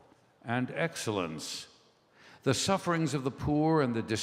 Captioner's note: none